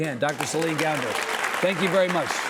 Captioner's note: audience applauding